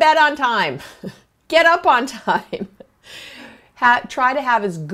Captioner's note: laughs